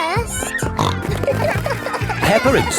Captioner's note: snorting